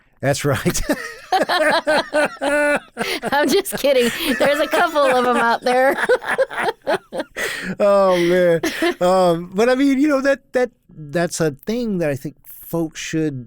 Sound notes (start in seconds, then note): 0.6 laugh